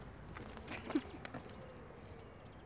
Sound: chuckles

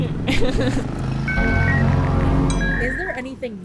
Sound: internet dialing up

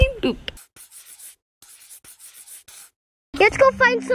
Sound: chalk writing

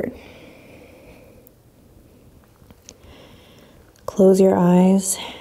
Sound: exhaling strongly

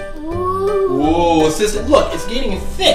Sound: little girl ooohs

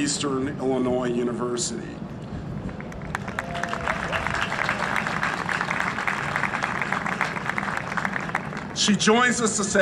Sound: applause

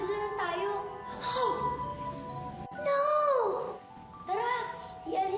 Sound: gasps

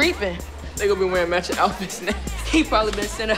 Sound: laughing

